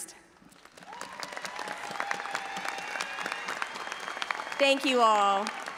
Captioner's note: all applauding and audience cheering